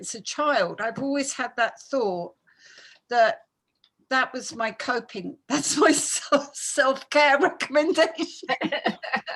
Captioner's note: laughing